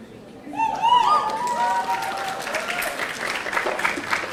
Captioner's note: audience applauding